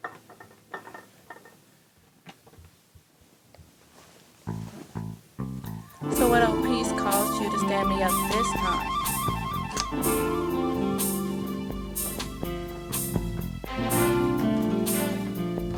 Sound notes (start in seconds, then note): 9.7 switch click; 10.9 romantic music continues to play